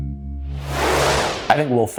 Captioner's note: whooshing